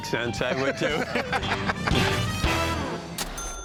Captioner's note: laughter